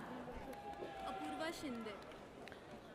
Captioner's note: audience cheers